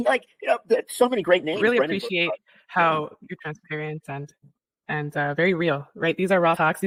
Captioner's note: laughter